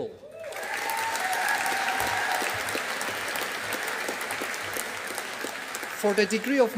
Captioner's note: audience applauding